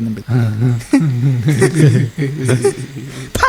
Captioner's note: everyone starts laughing